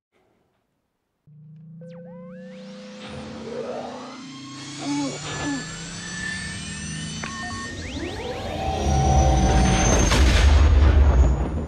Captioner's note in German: Milliennium Falcon Triebwerksgeräusche